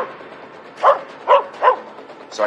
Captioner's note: barking